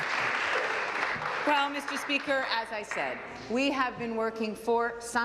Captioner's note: applause